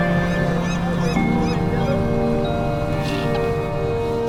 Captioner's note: birds squawking